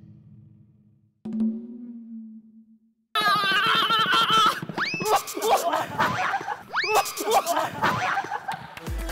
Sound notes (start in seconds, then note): 5.6 thump